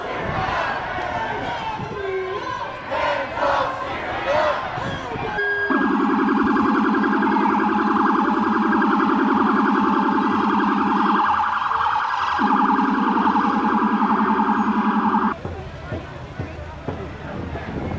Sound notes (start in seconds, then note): 5.3 sirens; 15.2 drumming